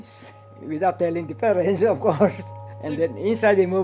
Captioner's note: laughs